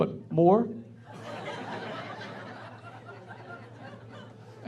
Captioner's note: laughing